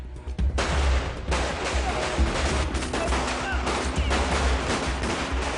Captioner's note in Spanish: Disparos